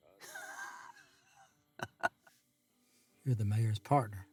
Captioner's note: Joe laughing